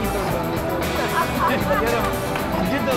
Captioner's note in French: La musique de guitare électrique continue; Rires; La musique de guitare électrique continue